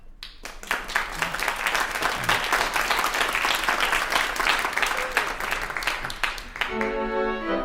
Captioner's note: applause